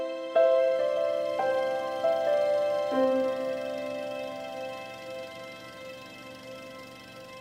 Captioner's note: sound of runnung projector